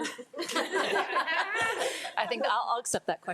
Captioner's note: trustees laugh